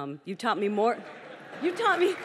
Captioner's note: audience laughs